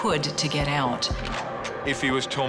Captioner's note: gun cocks